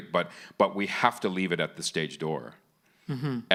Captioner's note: none